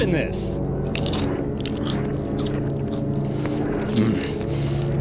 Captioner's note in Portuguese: Crunching como NOAH consome folhas